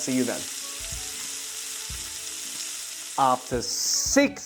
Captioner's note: sizzling sound